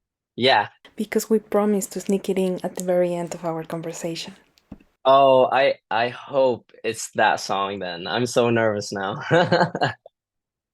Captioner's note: laughter